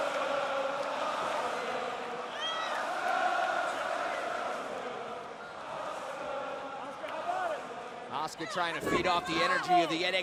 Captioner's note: crowd chatter